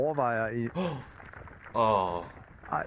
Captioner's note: gasps